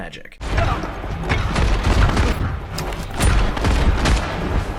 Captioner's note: guns blasting